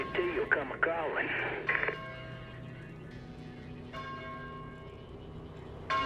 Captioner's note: church bell ringing